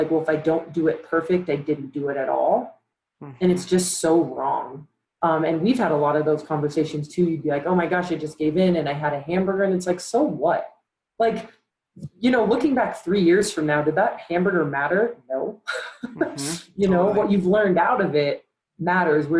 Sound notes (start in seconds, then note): 16.0 laughs